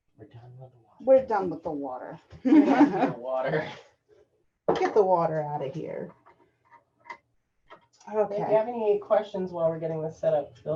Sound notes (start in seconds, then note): 2.4 laughter